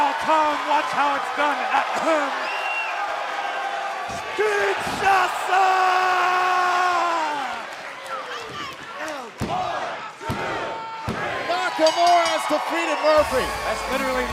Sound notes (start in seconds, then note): 11.7 bell ringing